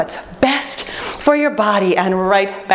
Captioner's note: beeping